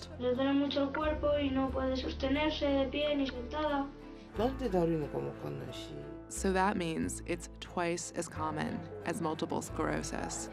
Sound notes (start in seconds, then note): 4.2 speaking Japanese